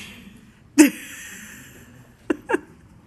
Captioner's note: laughing